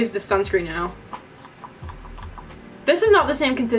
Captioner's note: squirt squirt